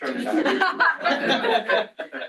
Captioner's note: laughter